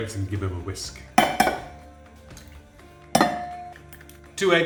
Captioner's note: bowl clanging; bowl clangs